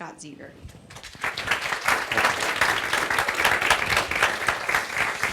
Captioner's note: audience applauds